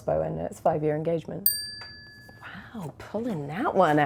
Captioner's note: bell dinging